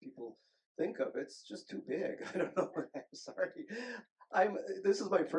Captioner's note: chuckles